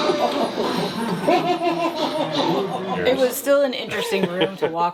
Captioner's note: toy laughing